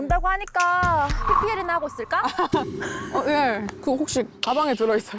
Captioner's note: revealing true intentions sound effect